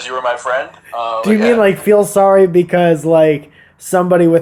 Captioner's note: chuckling